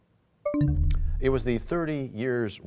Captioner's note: bell chimes, time expires